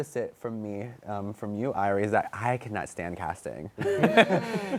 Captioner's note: laughter